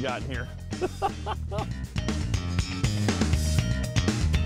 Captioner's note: chuckling; upbeat music